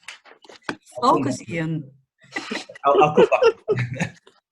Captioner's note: laughing; laughs